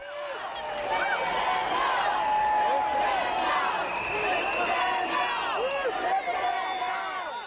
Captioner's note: crowd cheering and chanting